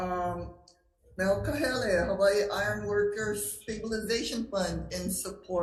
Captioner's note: speaking Hawaiian